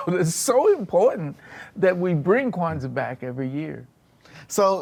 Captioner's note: laughs